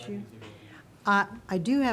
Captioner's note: speaking faintly